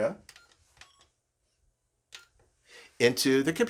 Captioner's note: machine beeps